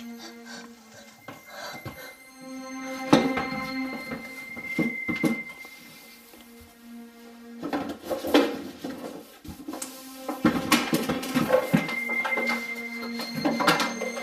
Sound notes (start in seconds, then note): 0.0 dramatic music playing; 0.0 sobbing; 3.3 thudding sound; 4.1 dramatic music playing; 5.2 footsteps; 6.7 dramatic music playing; 8.0 clattering